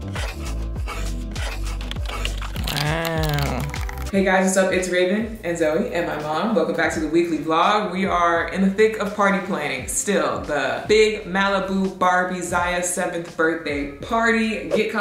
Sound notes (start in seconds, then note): 0.1 marker swiping; 1.8 perforated paper tearing